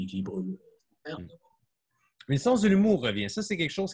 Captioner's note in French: coupure audio